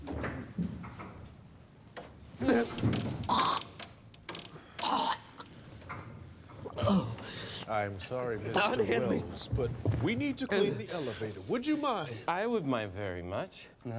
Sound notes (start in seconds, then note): 2.4 vomits, retches